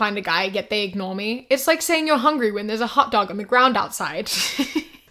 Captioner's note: laughs